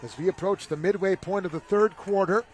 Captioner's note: laughter